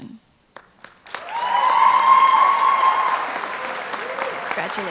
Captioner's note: applause